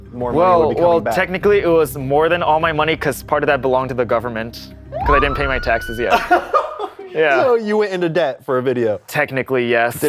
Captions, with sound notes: more money will be coming back? Well, technically, it was more than all my money because part of that belonged to the government because I didn’t pay my taxes yet. [chuckles] You went into debt for a video? Technically, yes.